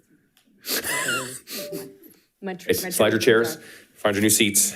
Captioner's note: person laughing